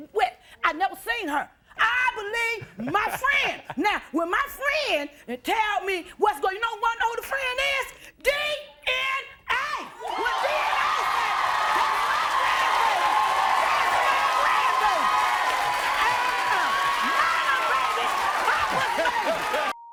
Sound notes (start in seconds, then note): 3.0 chuckles